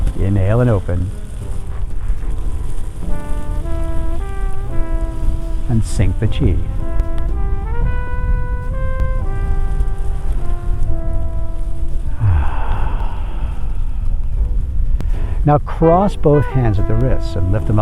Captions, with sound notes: Inhale and open. And sync the Chi. (exhaling) Now cross both hands at the wrist and lift